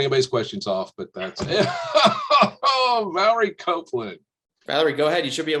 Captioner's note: laughs loudly